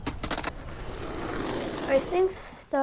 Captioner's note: skateboard whooshing; birds chirping